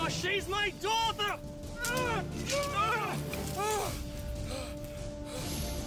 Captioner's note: grunting, fighting